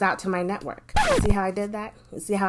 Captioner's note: rewind sound